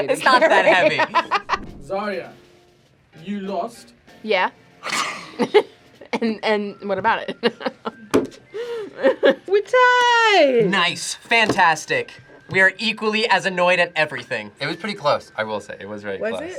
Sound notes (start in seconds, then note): 0.2 laughs; 4.8 laughs; 8.7 laughs